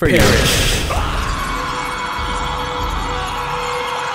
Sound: violent screaming

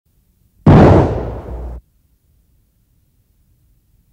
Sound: gun shooting

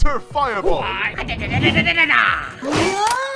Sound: Fireball yelling

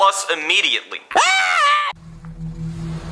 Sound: Junior screams; dramatic music begins

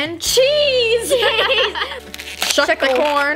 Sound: girls giggle

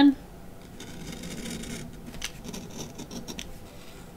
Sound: knife scrapping

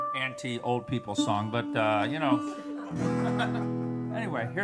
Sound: laughter

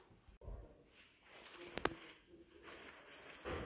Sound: none

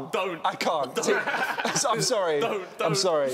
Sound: laughing

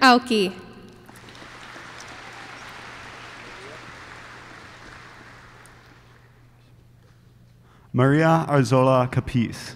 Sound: applause

